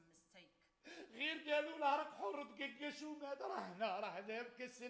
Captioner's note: man speaks Arabic